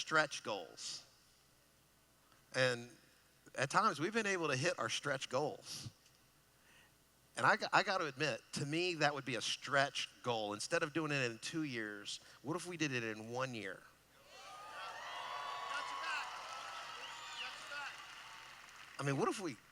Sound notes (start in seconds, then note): 14.2 cheering